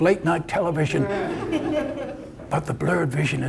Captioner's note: audience laughter